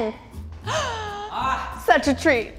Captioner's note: gasps